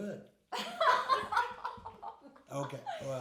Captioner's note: laughing